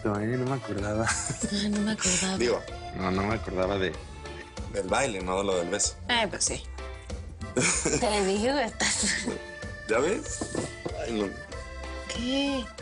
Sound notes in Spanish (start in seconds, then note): 1.9 Ríe; 7.5 El ríe